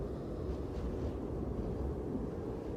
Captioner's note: none